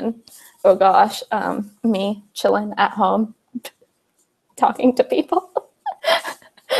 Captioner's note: laughs